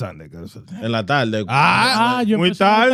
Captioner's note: speaking In Foreign Language